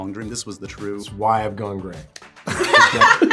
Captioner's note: group laughs